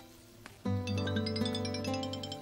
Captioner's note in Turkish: telefon çaliyor